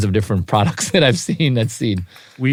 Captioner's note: laugh